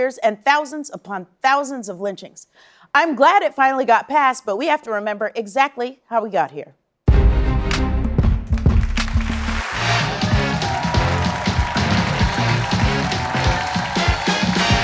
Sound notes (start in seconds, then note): 8.6 cheers and applause